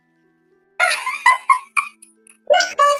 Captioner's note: laughs